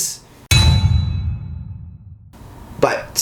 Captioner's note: bang sound